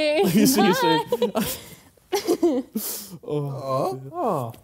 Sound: chuckling

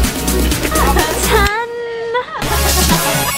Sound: cheers

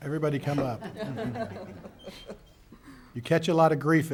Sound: laughing

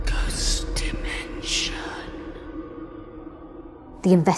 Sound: eerie music; ghostly Voice

